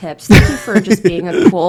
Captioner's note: laughs